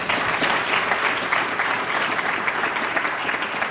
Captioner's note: applause